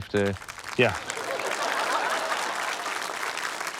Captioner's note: laughter, applause